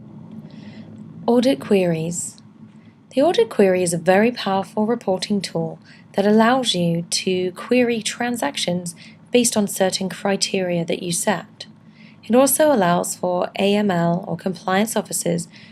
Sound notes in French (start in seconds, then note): 1.5 Voix off